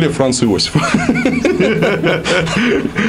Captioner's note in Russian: алчный смех